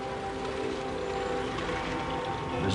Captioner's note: vehicles whirring, honking